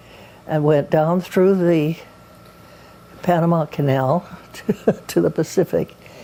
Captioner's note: laughs